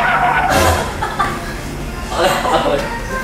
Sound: laughter

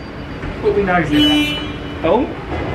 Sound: horn honks

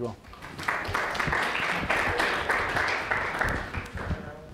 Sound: audience clapping

